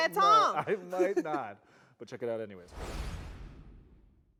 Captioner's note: laughs